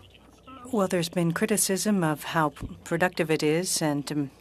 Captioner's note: speaking French